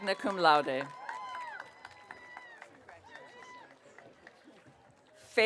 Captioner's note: audience cheering